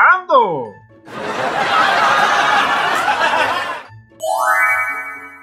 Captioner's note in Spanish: Risas